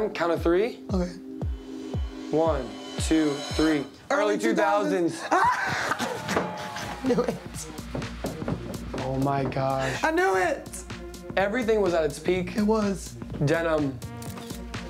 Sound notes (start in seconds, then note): 5.3 crowd cheers; 14.1 camera clicks